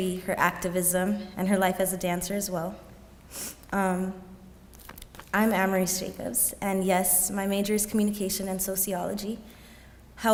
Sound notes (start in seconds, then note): none